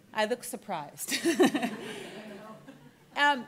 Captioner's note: laughs